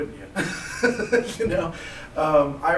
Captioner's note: laughter